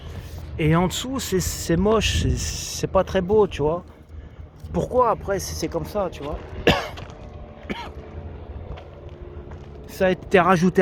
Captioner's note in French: toux